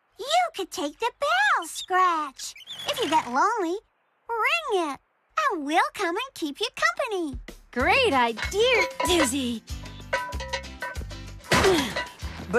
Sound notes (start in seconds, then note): 7.9 straining; 11.5 thud!